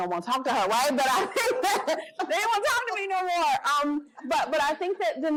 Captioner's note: laughter